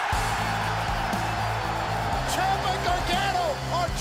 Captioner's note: cheers and applause